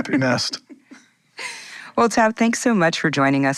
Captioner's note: laughing